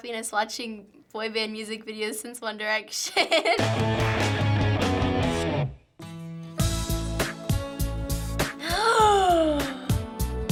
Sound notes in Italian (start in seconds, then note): 3.6 punk rock music; 6.7 sussulta